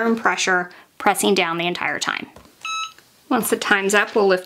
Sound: Cricut machine beeps

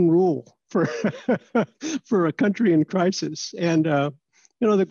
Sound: laughter

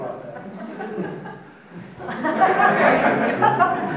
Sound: audience laughs

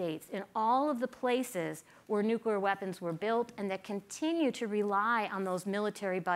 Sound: none

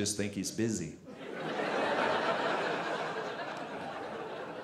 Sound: audience laughing

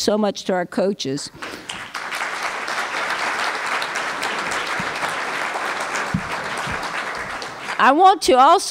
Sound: applause

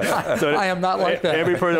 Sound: all laughing

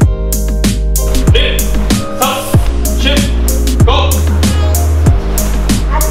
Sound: counting in Japanese

